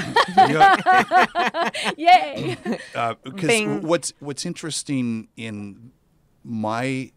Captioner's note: laugh